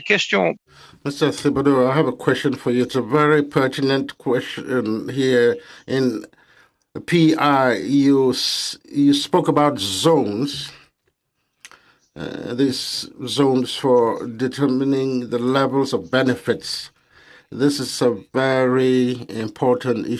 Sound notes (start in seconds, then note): 4.5 speaking French